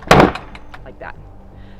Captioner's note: lid thumps